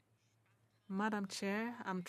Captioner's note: speaking French